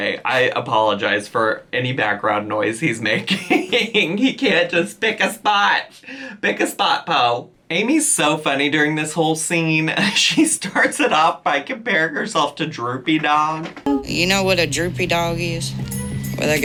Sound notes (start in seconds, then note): 11.0 chuckles; 13.8 tranquil ambient music